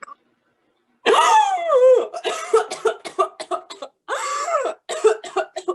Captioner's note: gagging and coughing